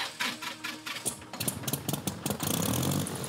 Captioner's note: engine starts